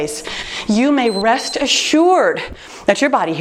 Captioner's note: timer beeps